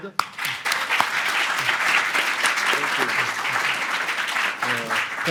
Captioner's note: applause